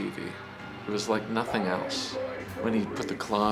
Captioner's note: people shouting faintly